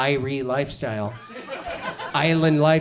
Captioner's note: audience chuckles